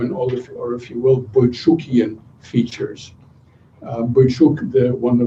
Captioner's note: non-english speech